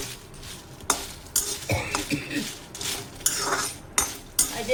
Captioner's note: coughing due to previous roast's pungency